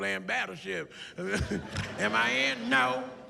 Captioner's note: laughs